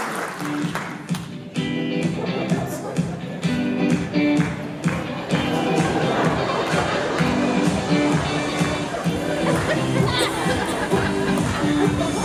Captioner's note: applause; laughter; clapping - Music gradually fades